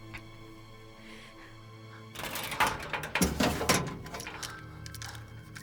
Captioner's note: panting